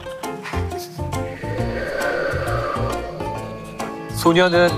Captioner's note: A sound effect of wind